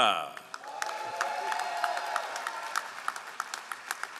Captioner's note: all applauding